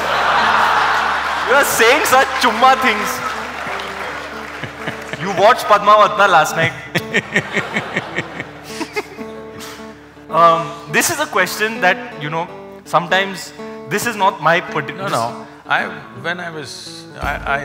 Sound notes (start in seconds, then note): 9.6 laughter